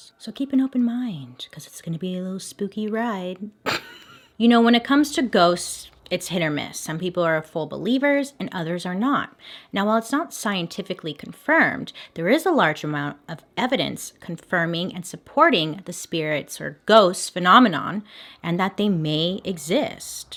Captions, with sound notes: so keep an open mind because it's going to be a little spooky ride. (laughs) You know, when it comes to ghosts, it's hit or miss, some people are full believers and others are not. Now while it's not scientifically confirmed, there is a large amount of evidence confirming and supporting the spirits or ghosts phenomenon and that they may exist.